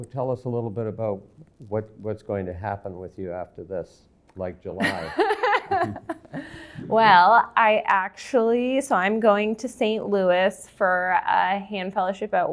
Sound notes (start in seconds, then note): 4.8 laughter